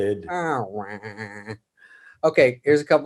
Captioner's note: David makes sad noise